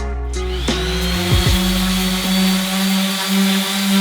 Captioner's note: sander whirs